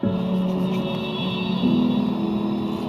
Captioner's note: train horn